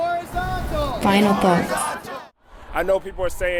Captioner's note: crowd Responds